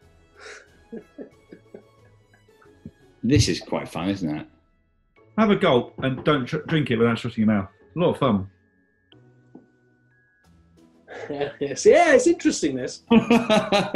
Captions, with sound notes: This is quite fun isn't it? Have a gulp, and drink it without shutting your mouth. It's a lot of fun. [CHUCKLES] Yeah, it's interesting, this. [LAUGHTER]